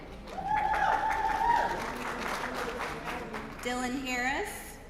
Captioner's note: applause